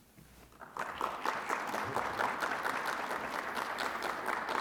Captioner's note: audience applauding